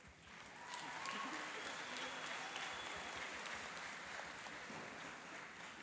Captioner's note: applauding and cheering